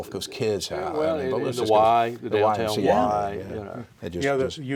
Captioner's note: indistinct chatters